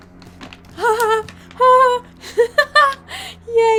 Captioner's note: laughs